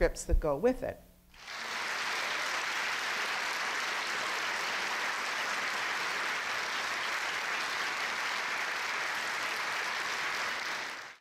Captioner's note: audience applause